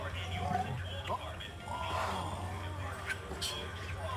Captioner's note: pig grunts